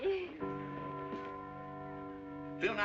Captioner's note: church bells tolling